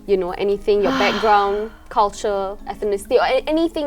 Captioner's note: sighs